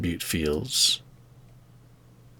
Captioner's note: silence